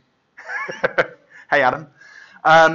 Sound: laughs

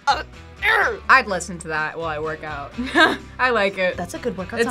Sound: laughs

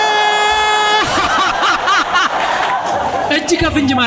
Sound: laughter

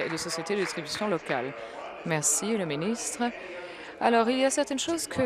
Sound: applause

